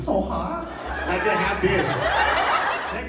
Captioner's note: crowd laughs